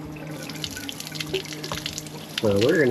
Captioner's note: water splashes